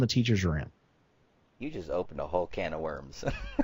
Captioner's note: laughs